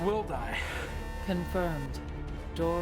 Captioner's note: computer Voice